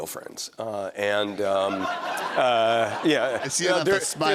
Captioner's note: laughter